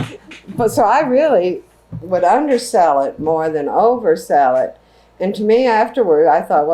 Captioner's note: laughs